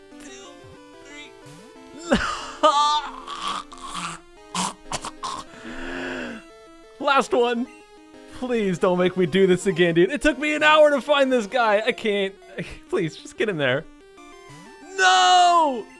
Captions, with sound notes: [Very quietly grunts "two... three..."] Nooho-- [Literally chokes on the loss] [Deep inhale] Last one! Please don't make me do this again, dude. It took me an hour to find this guy! I can't... I, please, just get in there. No!